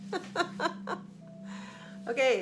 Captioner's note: laughing